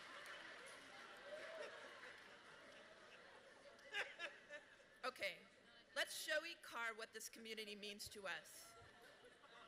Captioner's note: laughter